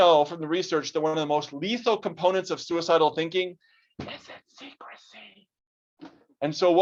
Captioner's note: whispers